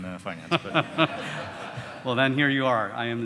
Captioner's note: audience laughing